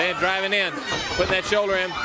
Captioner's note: crowd cheering